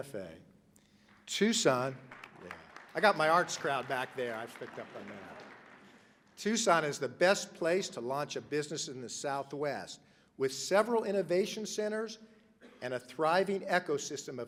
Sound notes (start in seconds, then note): 1.0 applause